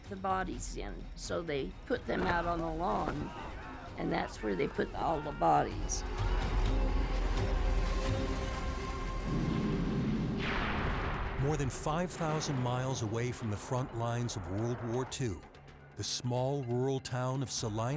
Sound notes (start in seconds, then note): 4.9 suspenseful music; 9.3 bombs dropping, fighter plane noise